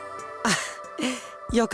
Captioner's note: relieved gasp